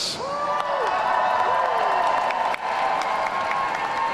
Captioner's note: audience cheering